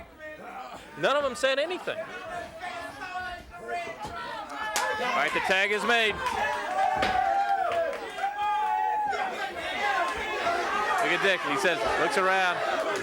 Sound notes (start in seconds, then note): 6.9 hands thudding; 7.3 crowd clamoring